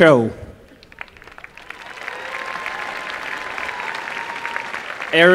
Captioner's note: applause